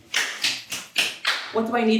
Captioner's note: Kat claps her hands